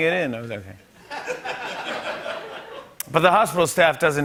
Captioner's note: laughter